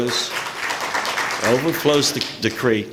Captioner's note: applause